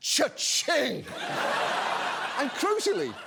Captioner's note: audience laughs